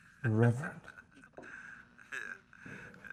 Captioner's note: Headhunter laughs